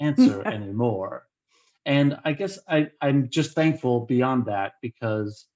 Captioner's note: laughter